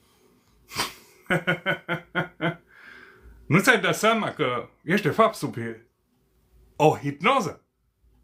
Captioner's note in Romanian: Râsete